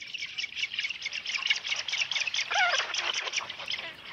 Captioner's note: chicks squawking